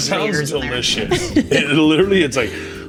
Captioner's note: laughs